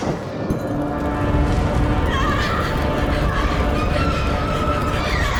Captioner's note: Puckerbrush screams